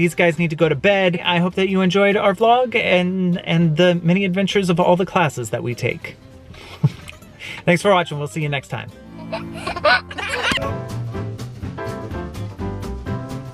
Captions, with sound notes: These guys need to go to bed. I hope that you enjoyed our vlog and the mini adventures of all the classes that we take. (laughs) Thanks for watching. We'll see you next time. (giggling) (upbeat music)